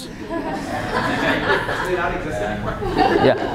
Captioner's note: laughter